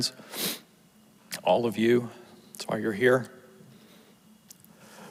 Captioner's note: sniffles